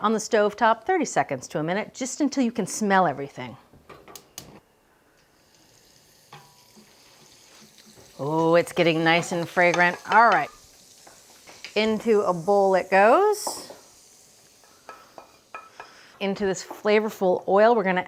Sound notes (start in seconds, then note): 5.9 oil sizzling; 14.6 spoon thumping